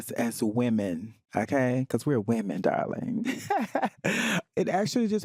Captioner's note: laughs